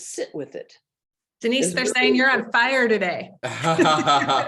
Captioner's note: laughing; laughs